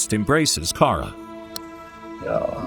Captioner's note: click